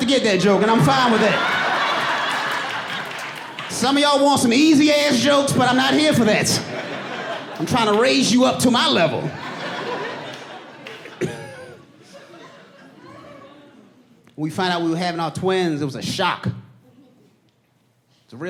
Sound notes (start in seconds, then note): 6.1 audience laughing; 7.9 laughs